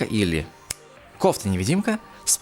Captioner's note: snap Fingers